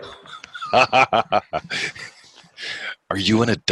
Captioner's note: laughing